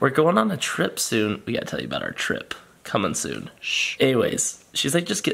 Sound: shushes

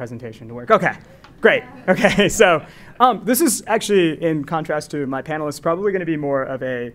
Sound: laugh

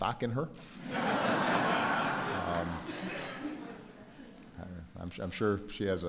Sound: laughter

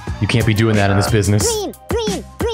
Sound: pigeon singing

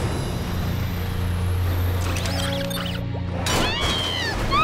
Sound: mandy screams

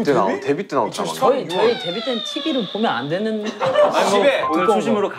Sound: sadly

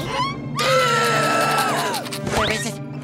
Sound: gasps

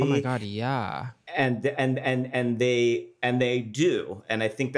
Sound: stammers

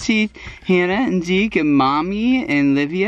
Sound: sounds of disagreement

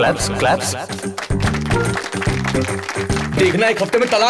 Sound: applauding

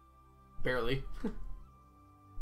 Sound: chuckles

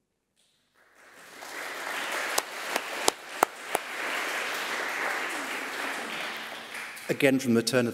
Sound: applause

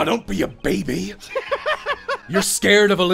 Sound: laughter

